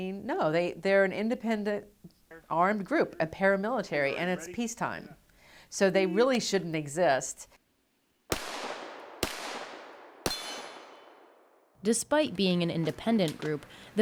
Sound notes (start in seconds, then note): 8.3 gun shots